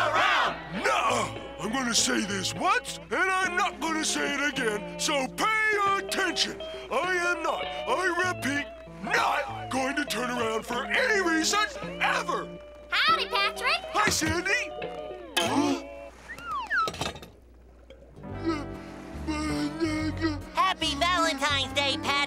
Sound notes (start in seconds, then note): 15.4 gasps